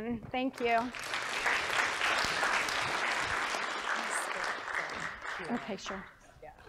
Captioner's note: applause